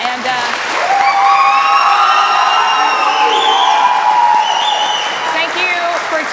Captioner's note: cheers and applause